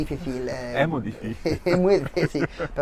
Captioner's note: in Andalusian accent